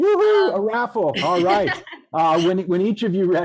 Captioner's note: laughs